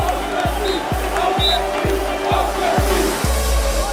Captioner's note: fan chant